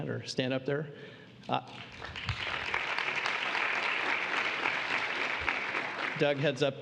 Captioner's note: applause